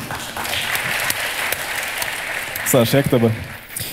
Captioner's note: the audience cheers